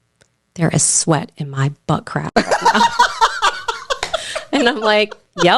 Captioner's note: laughing